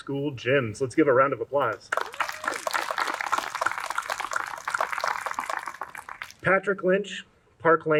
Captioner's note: clapping